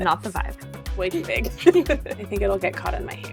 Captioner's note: chuckles